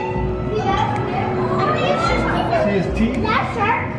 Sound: children chattering

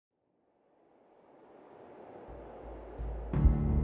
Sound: wind blowing

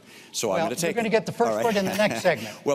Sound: chuckles

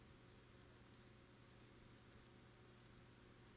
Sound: none

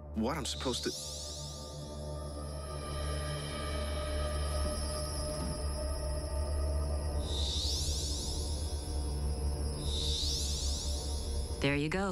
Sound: electricy ithums

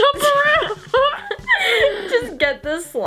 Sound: laughing

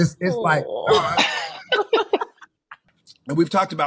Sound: laugh

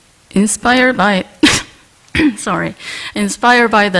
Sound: cough

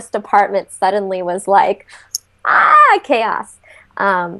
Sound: screams

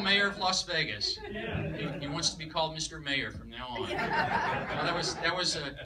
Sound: laughter; laughter

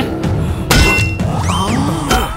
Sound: gasps

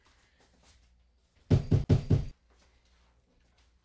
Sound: hard knock on Door

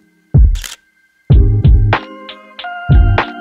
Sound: camera shutter clicks

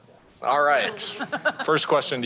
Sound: chuckling

